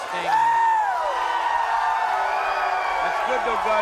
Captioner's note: crowd cheers